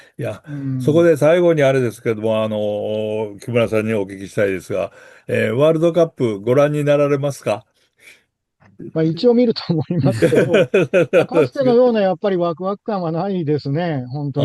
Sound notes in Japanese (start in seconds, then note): 12.1 笑い